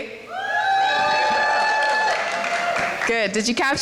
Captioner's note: cheering